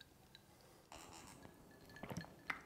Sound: drink and swollow sounds

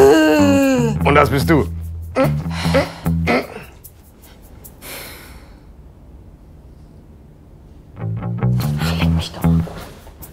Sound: caveman sound; uptight moaning

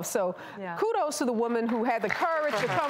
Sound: applause

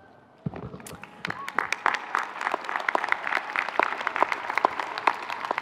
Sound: audience cheering

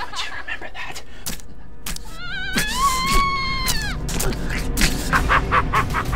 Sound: Martha screams; flesh squelching; devil laughs

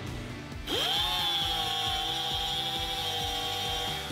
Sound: cutter screeching

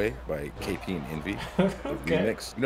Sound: laugh

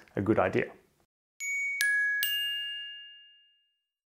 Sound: chimes ring

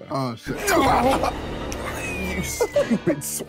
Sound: grunting

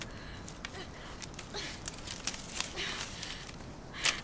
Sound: twigs breaking

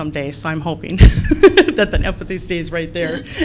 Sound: laughs

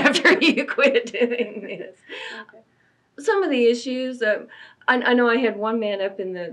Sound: laughs

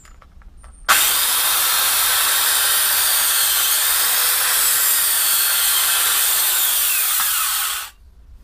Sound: loud sawing noises

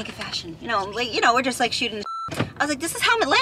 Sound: beep

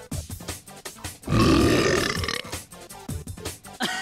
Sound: belching; laughing

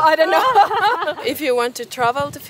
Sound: laughing

